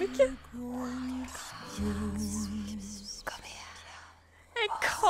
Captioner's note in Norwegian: sensuell kviskring